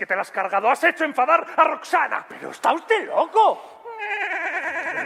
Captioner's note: laughter